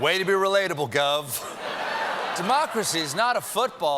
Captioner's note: laughter